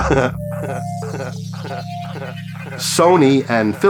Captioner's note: laughter